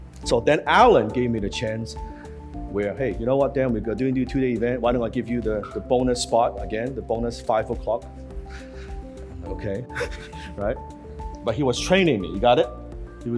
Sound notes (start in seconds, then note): 9.8 laughs